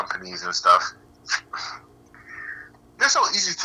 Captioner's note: laughing